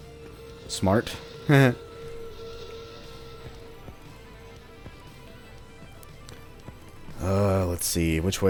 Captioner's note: klaxon blaring in the background